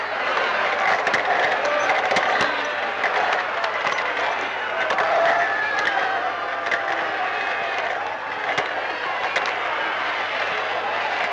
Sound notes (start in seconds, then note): 1.7 truckling sound